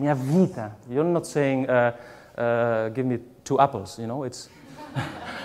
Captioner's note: laughs